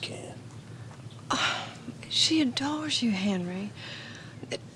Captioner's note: sighs